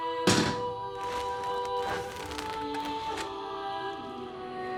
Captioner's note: crust crunching